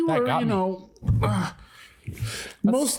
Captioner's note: exhales deeply